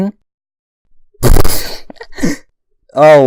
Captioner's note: real loud raspberry noise that came out while trying to hold in laughter